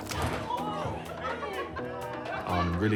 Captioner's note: exclaiming, laughter